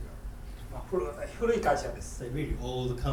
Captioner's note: speaking in foreign language